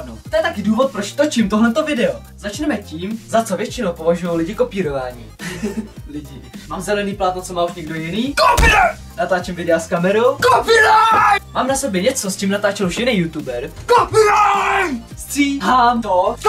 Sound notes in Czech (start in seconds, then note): 5.4 Smích